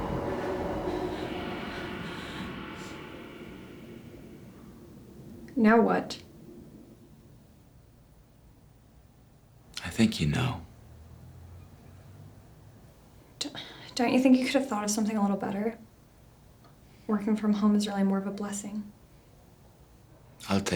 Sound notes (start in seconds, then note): 13.5 sighs